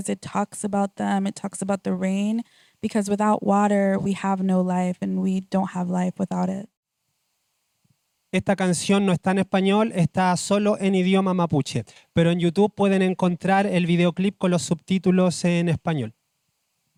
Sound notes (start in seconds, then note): 11.2 speaking Spanish